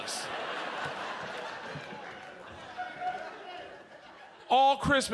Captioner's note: audience laughs